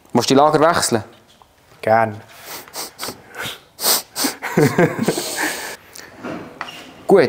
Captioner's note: laugh